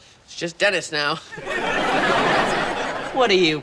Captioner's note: audience laughing